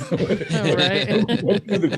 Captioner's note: laughing; laughs